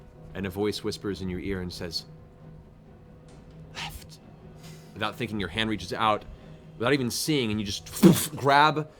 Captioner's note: impact